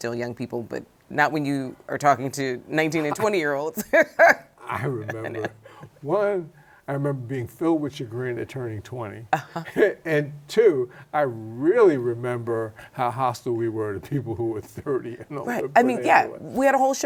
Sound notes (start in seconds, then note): 3.8 chuckles